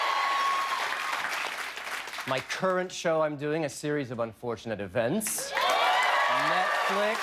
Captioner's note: cheers and applause